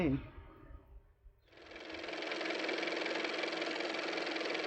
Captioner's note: car motor